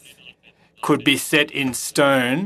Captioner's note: speaking French